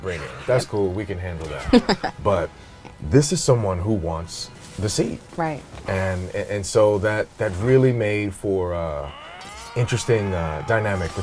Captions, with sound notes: That's cool. We can handle that. -[laughs] -But this is someone -who wants the seed. -Right. And-- and so, that really made for uh-- interesting dynamic between our characters,